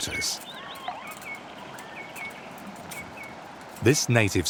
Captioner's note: birds singing